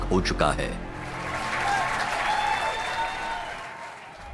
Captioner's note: cheers and applause